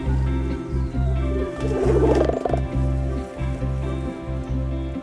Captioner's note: thunder rolling; owls hooting